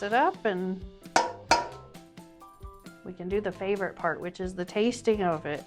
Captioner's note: metal clanking